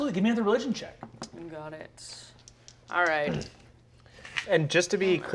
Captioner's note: dice rattling